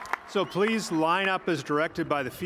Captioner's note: cheers and applause